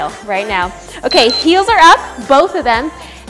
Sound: timer beeps

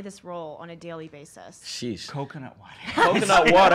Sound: all laugh

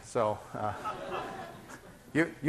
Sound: students laughing

